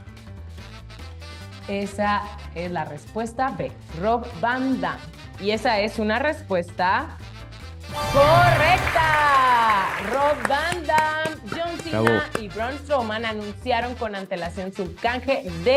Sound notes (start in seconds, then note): 8.0 applause